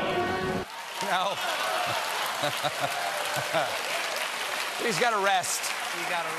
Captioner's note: cheers and applause